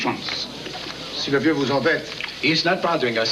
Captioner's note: speaking french